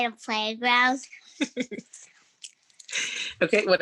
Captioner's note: laughs